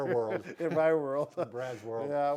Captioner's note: chuckling